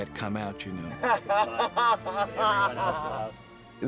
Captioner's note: laughing